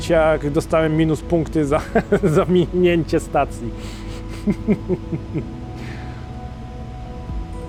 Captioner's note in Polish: śmiech